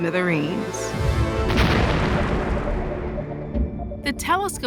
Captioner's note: explosion